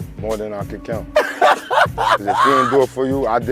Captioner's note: laughing